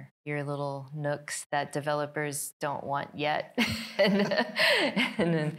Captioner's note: laughing